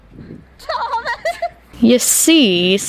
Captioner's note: shouting through laughter